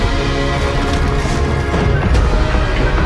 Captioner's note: crunching; crashing